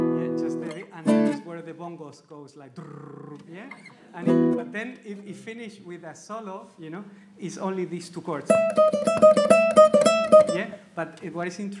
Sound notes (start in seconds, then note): 1.0 trills mouth; 4.1 audience laughs; 8.4 plays flamenco